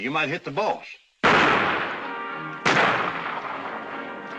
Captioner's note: gunshots